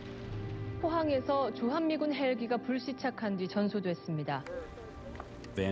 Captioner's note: speaking foreign language